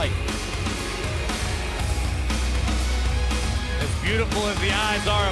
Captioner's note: crowd cheering